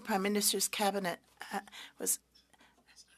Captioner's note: speaking French